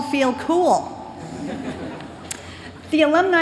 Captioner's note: laughter